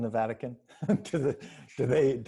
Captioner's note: laughs